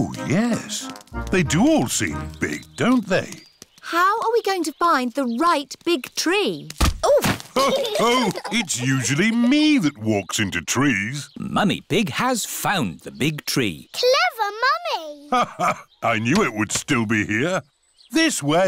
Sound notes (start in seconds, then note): 7.5 others laugh